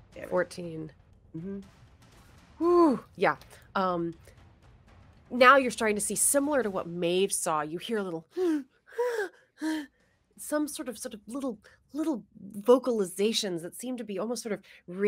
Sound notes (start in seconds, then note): 9.3 mimics moan